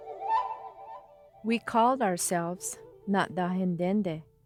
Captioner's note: speaking a foreign language